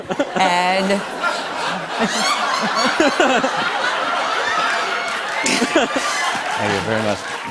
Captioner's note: laughter